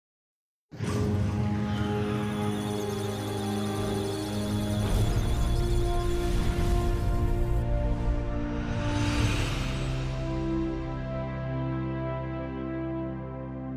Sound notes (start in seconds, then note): 1.8 electronic sounds of data; 1.8 musical tones